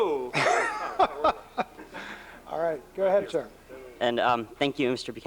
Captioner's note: laughs